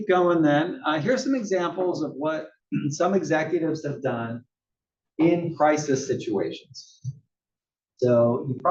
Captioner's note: cough